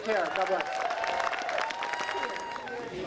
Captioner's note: applause